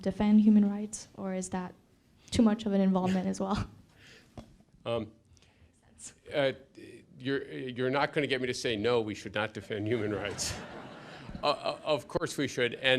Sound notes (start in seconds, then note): 9.8 laughter